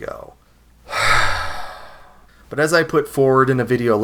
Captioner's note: sigh